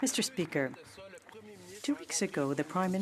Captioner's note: some Applause